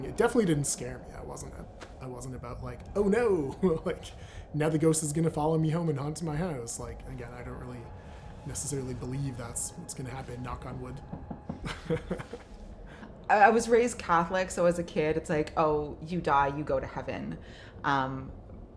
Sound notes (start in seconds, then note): 10.9 knocking; 11.6 laughs